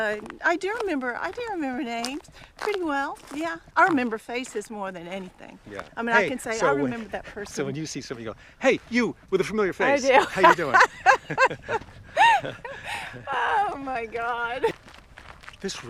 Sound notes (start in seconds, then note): 12.0 Kim laughs